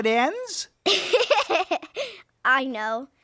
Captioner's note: giggling